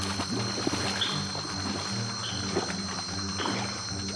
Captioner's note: water splashing